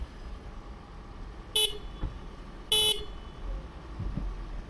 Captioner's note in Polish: dźwięk klaksonu